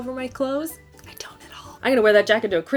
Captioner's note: whispering